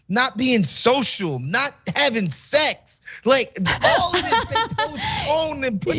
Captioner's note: laugh